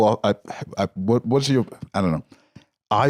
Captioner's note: stammers